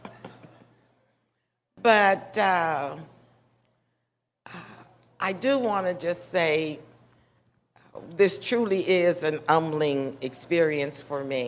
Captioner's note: laughter